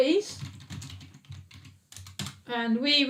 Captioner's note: keyboard clicking